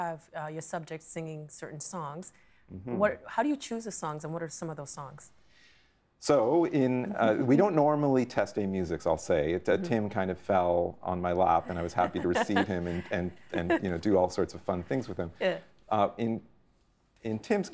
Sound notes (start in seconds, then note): 7.2 chuckling; 13.8 laughing